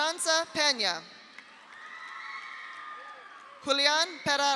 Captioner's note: audience applauds; audience cheers